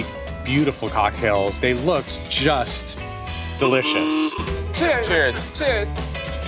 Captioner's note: old-fashioned horn honks